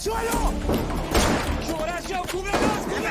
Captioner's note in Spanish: Disparos